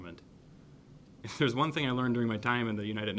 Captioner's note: laughs